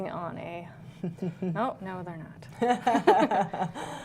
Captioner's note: laughter